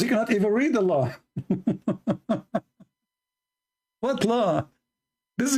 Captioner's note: Ketawa